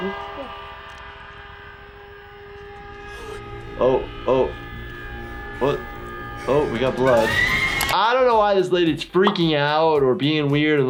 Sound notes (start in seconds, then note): 7.2 screams